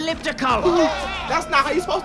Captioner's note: gasps